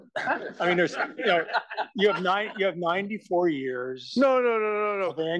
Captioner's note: laugh